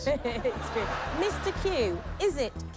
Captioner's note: laughter